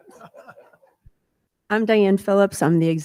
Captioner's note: people laughing